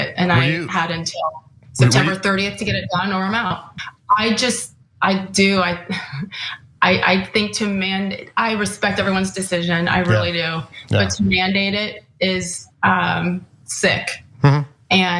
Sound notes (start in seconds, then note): 6.1 laugh